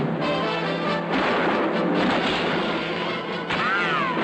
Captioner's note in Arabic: طلقات نارية